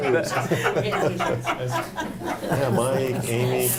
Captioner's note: group laughing